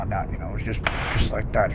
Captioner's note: claps loudly